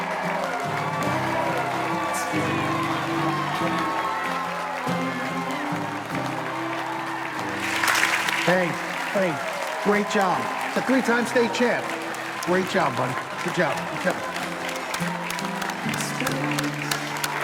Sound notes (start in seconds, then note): 0.8 audience cheering and shouting drowns out singer; 17.0 audience cheering and applauding drowns out singer